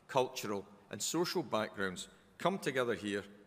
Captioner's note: none